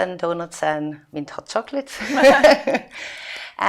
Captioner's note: laughing